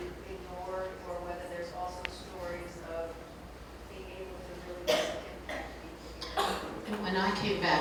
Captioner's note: coughing drowns out words